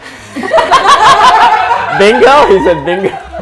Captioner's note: laughter